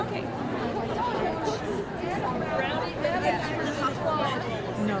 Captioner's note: crowd chatters